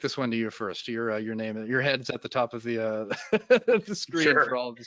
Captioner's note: laughs